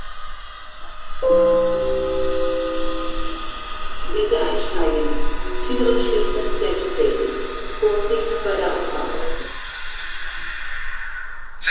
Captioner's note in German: Bahnhofsansage mit Gong